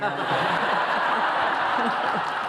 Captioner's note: laughter